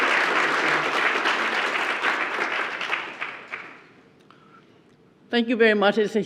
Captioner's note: applause